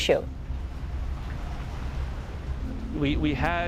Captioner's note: wind gusting